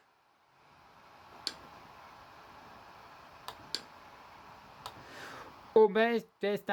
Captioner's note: laptop dvd drive spinning